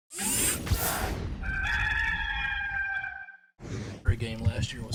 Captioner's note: rooster crows